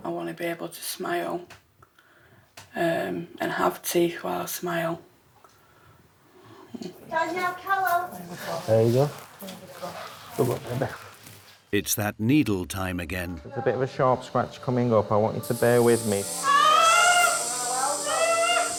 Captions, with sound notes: I want to be able to smile and have teeth while I smile. Danielle, come on There you go. Good luck, baby. It's that needle time again. There's a bit of a sharp scratch coming up, I want you to bear with me. *Screams* That's what?